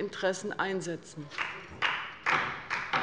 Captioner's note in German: Beifall bei der LINKEN und der SPD